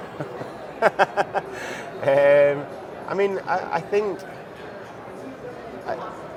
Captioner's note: laugh